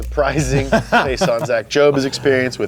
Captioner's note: laughs